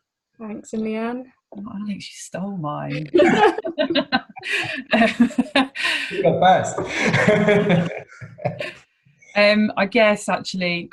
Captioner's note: laughter